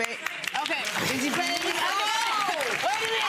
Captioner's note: audience clapping